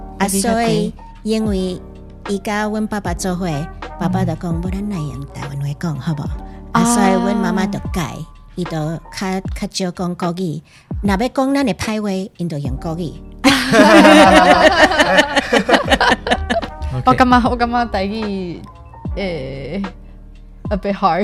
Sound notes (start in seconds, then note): 0.1 Taiwanese; 13.5 laughing; 17.1 Taiwanese